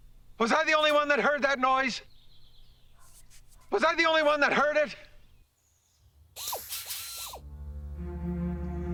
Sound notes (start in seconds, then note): 6.4 whirring